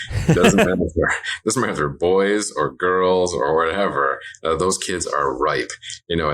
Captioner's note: laughs